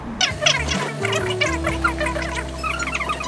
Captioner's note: talking